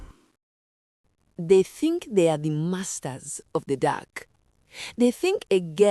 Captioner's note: voiceover